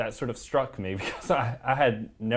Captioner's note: laugh